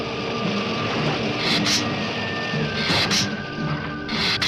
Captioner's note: lizard hissing